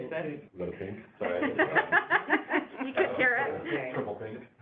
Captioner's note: laughter